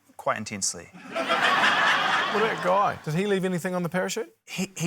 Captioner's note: laughter